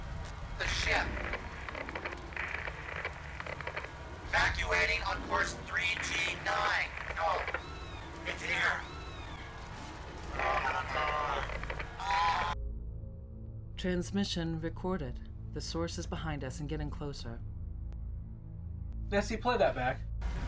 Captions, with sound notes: (Radio voice) -- the ship. (Radio voice) Evacuating on course 3G9. No! It's here! (Computer voice) Transmission recorded. The source is behind us and getting closer. Nessie, play that back.